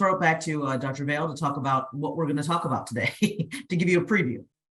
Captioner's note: laughs